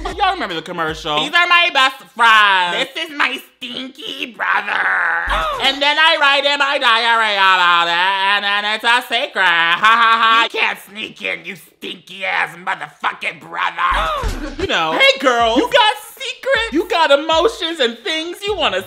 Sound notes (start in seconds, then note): 4.8 boy grunts; 13.8 boy grunts